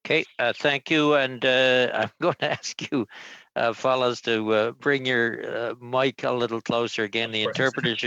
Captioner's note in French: voix de l'interprète